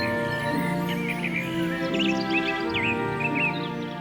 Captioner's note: insects chirruping, birds calling